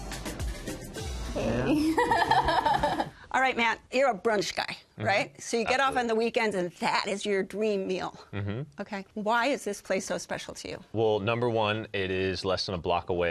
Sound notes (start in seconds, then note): 1.6 laughs